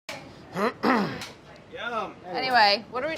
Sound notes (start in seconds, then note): 0.1 clapperboard snaps; 0.5 clears throat; 1.3 clapperboard snaps